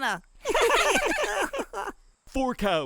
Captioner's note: laughter